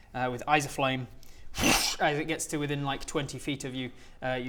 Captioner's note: whoooosch